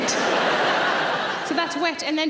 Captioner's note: audience laughing